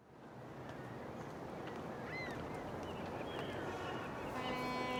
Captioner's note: birds squawking; car horns honking